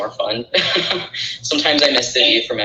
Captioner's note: laughing